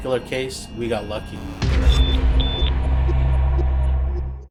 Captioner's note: two high-pitched beeps